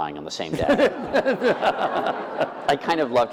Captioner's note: laughter